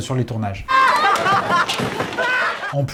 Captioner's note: screams